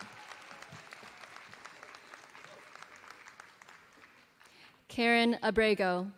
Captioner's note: applause